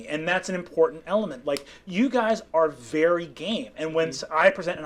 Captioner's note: none